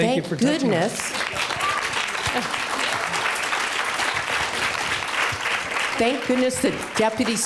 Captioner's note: applause